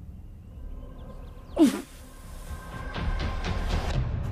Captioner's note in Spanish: Exclamación